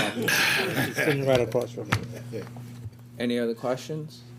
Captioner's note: laughter